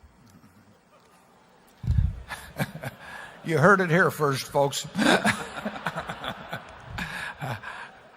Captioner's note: laughter